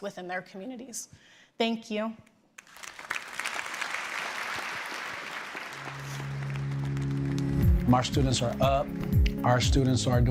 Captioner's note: applause